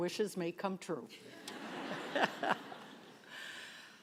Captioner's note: laughter